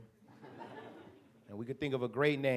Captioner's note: audience chuckles